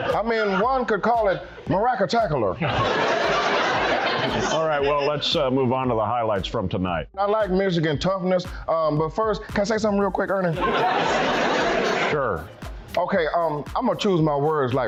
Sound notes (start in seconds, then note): 2.6 laughing; 10.6 laughing